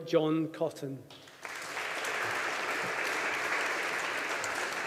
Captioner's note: audience applauding